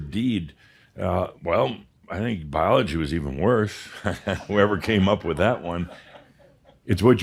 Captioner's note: Adamus chuckles